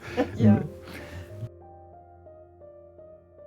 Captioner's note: laughter